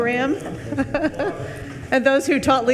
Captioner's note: chuckling